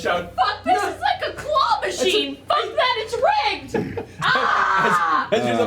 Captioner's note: yells